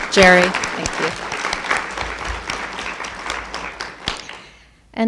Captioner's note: applauding